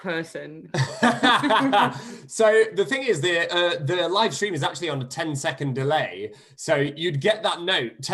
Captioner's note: laughter